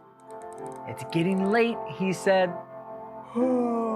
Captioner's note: yawning noise